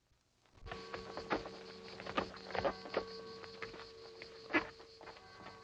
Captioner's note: church bells dinging